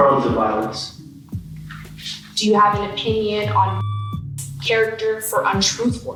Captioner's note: beep